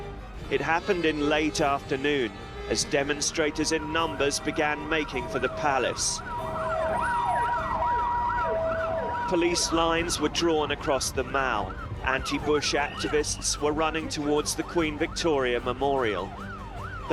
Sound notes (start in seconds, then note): 6.7 sirens blaring